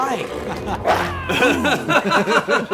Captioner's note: chomps; screams